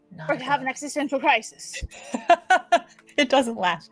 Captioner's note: laughing